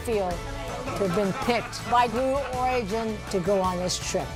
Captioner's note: laughter